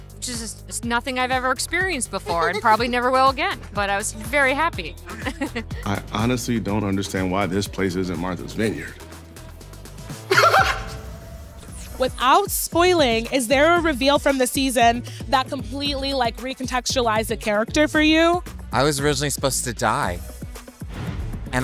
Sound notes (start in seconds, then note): 10.2 laughs